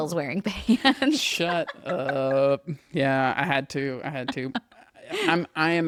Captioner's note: laughs; laughs